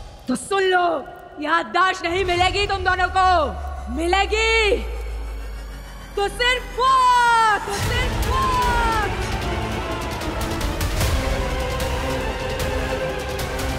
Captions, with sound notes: You won't get your memory back. All you'll get - is death! - [echoes] [intense music plays]